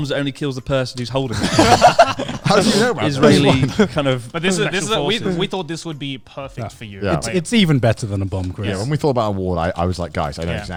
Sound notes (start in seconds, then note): 1.6 laughs quickly